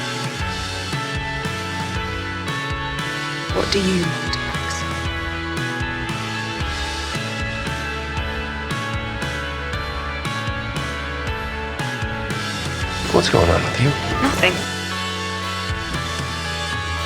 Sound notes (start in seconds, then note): 13.2 voiceover